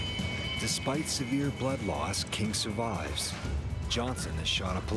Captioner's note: voiceover